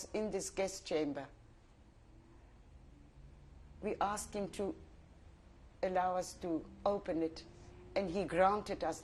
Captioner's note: pauses for 3 seconds